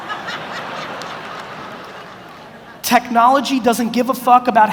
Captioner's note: audience laughs